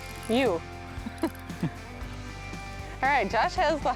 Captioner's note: laughs